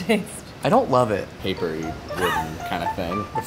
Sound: laughing

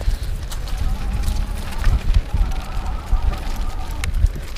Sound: wind blowing; laughs; pedals spinning

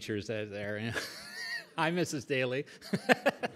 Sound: laughs; laughs

